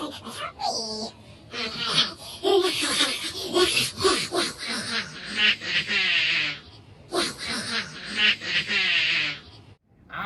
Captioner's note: evil laughing